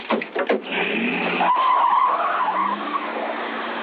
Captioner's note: tires screeching